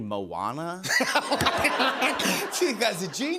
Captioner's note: laughter